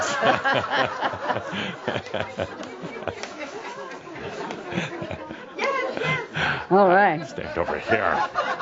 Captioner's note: more laughter; a few more chuckles as Adamus moves to the side